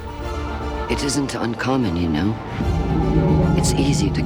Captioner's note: voiceover